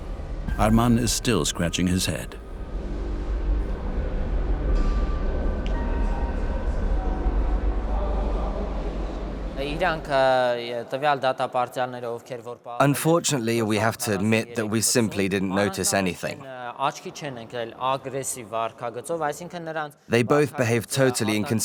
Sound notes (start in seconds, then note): 6.0 voiceover